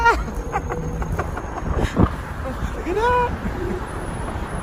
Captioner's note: laughing